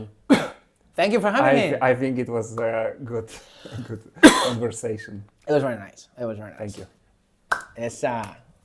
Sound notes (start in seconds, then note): 0.2 coughs; 3.4 laughs; 3.8 coughs